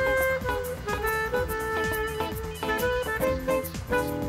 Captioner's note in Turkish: Telefon zili sesi